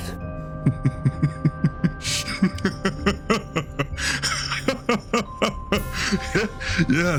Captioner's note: laugh